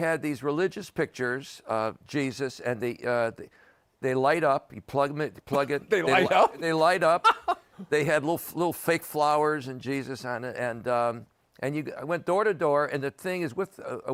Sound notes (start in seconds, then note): 7.0 laughs; 7.2 chuckles